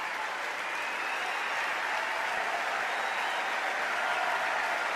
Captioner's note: applause